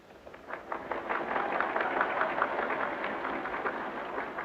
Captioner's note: audience cheering